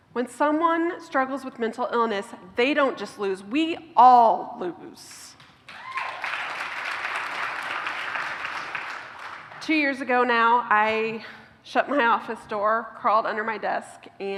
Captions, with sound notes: When someone struggles with mental illness they don't just lose, we ALL lose! [cheers] Two years ago now, I shut my office door crawled under my desk